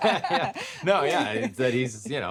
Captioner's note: they both laugh